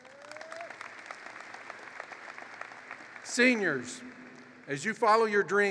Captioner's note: applause